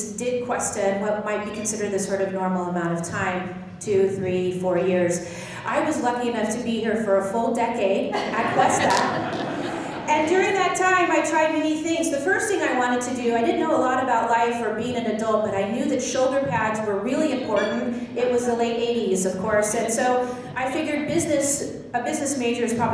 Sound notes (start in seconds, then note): 8.1 laughing